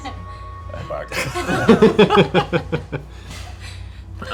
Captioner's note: laughter